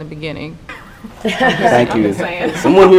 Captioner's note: laughing